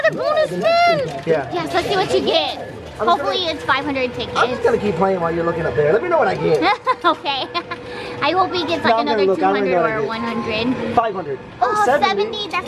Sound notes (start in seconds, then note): 6.5 laughs